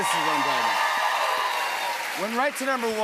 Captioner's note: cheers and applause